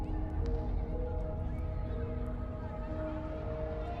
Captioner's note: gentle suspenseful music; voices whispering